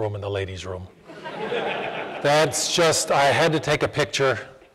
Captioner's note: laughter